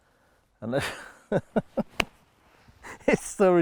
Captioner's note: laughing